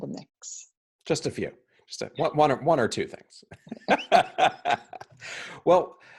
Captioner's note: chuckling